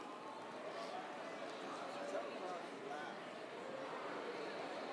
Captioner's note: students chattering